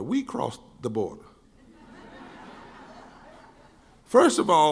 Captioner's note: laughing